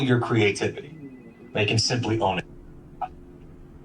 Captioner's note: phones ringing; helicopter